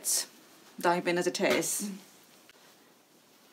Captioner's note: mannequin rustles